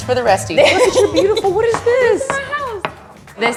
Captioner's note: laughing